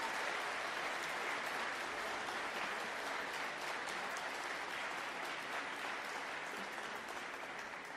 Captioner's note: applause